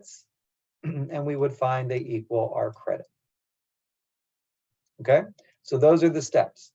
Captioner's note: cough